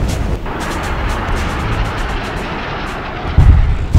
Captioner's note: jet engine roaring